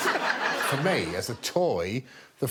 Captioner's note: all laughing